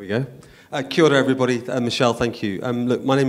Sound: speaking in foreign language

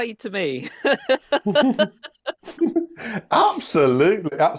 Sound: laughter

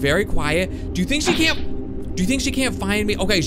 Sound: vanishing noise

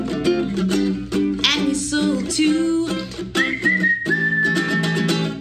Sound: whistling

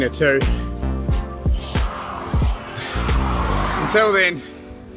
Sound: labored breathing

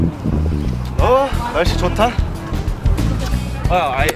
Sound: speaking foreign language

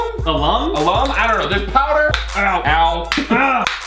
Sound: cracking

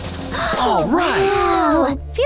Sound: drum rolling; gasping

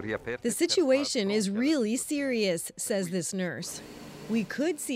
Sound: speaking Foreign Language

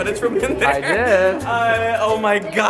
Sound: voiceover

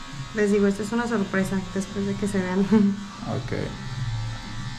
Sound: speaking in Spanish

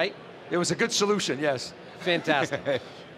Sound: laughs

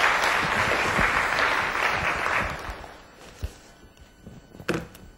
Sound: class applauds

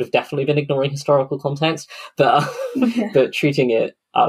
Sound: laughs

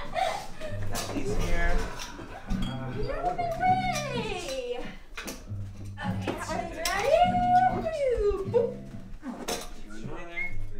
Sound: background working noises

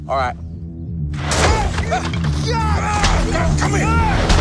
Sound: men yelling

